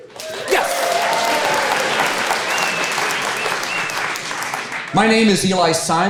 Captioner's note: audience applaud